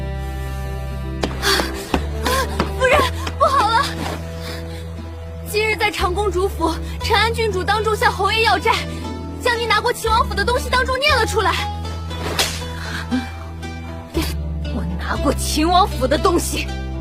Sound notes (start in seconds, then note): 1.2 sighs